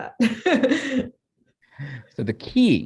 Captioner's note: chuckles